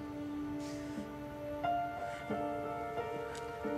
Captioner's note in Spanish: sollozos ahogados